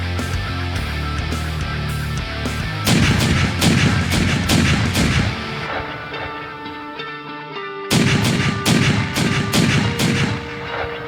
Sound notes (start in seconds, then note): 2.8 shots firing